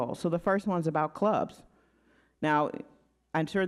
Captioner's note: none